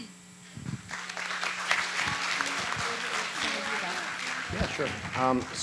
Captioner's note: audience applauding